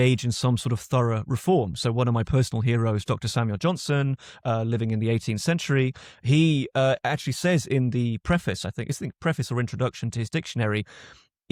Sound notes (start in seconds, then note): none